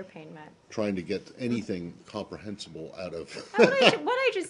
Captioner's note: laughter